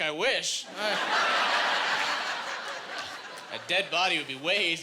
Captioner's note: laughing